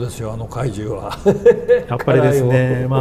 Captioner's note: laughs